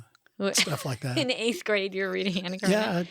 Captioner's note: laughs